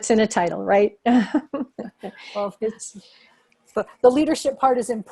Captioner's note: laughter